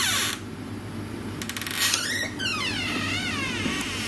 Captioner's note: door creaks